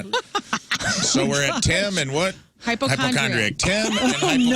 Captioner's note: laughing